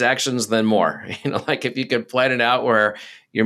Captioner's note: chuckles